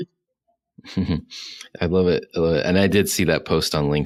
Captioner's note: chuckles